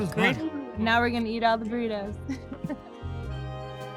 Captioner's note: chuckles; soft jazzy music